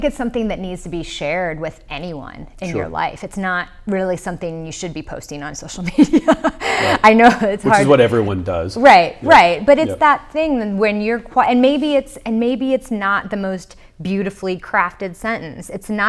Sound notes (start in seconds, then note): 6.0 laughs